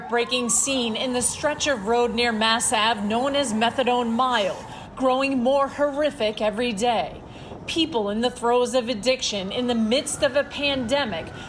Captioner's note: sirens